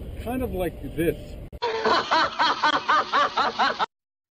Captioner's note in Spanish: Carcajadas